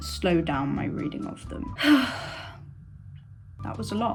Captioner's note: dramatic sigh